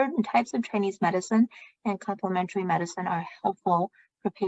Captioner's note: speaking chinese